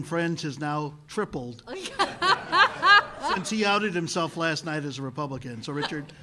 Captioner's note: laughter